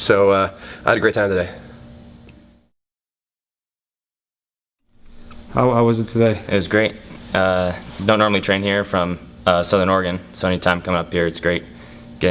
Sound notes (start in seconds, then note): 5.7 voiceover